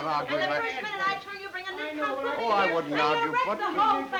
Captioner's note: both chattering